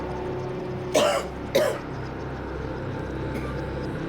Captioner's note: coughing